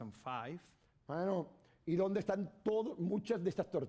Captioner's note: speaking spanish